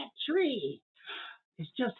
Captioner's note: gasp